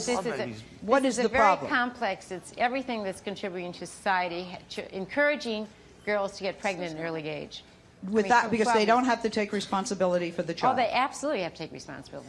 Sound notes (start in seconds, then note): none